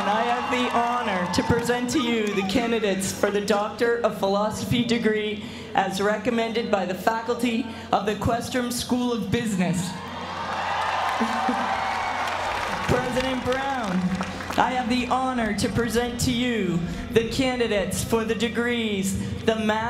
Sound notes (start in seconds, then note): 10.0 applause; 11.1 laugh